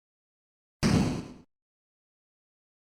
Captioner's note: thud